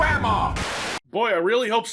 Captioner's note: TV buzzing